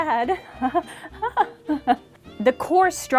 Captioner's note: even MORE unsettling laughter